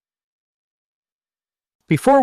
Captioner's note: pause